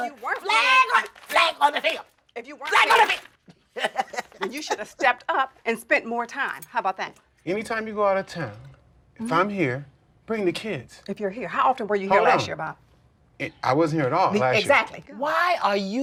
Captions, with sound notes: FLAG ON THE -- FLAG ON THE FIELD! IF YOU WEREN'T -- FLAG ON THE FIELD! [ LAUGHS ] THEN YOU SHOULD'VE STEPPED UP AND SPENT MORE TIME. HOW ABOUT THAT? ANYTIME YOU GO OUT OF TOWN, IF I'M HERE, BRING THE KIDS. IF YOU'RE HERE -- HOW OFTEN WERE YOU HERE LAST YEAR, BOB? I WASN'T HERE AT ALL LAST YEAR. EXACTLY. WHY ARE YOU MEASURING?